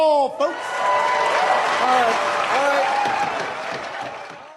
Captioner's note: audience cheering